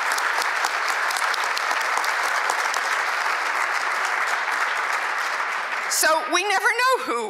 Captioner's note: applause